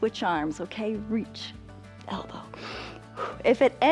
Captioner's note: inhales and exhales